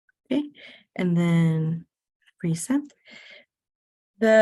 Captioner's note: none